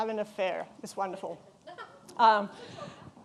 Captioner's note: woman laughs; all chuckling